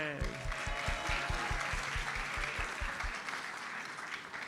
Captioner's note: audience applauds